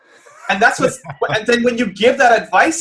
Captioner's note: laughs